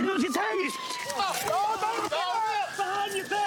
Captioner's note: yells